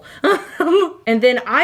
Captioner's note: laughing